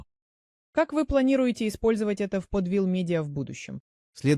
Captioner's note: speaking Russian